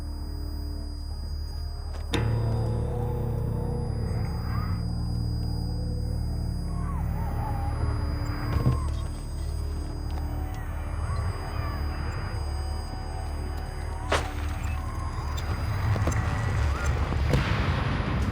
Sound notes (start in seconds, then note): 14.5 gunshots